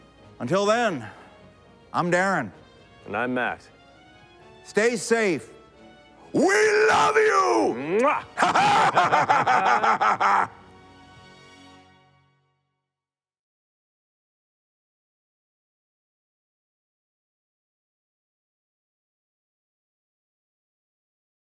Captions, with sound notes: -Until then, I'm Darren. -And I'm Matt. Stay safe. (LOUD VOICE) We love you BLOWS A KISS BOTH LAUGH LOUDLY